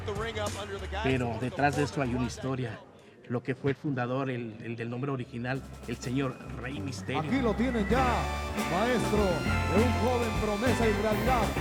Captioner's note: speaking Spanish